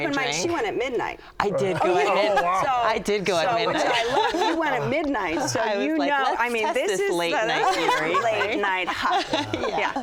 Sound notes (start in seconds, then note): 3.6 laughing in unison